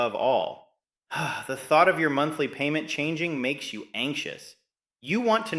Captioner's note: sighs